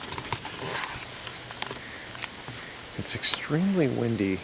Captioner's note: camera clattering